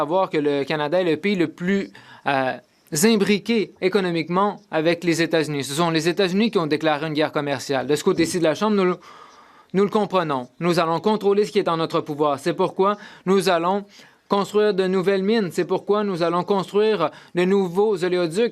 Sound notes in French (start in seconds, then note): 0.0 voix de l'interprète